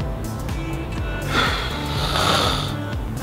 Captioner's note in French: soupir